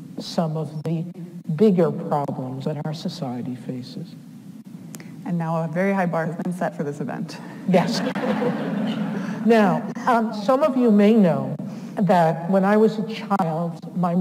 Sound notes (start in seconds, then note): 7.8 audience laughs